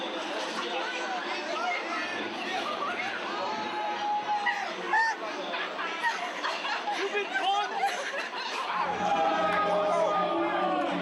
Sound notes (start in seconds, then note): 4.4 sobbing